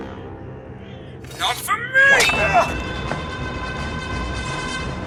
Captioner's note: clangs sword